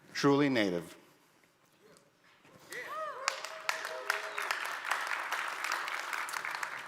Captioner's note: audience applauds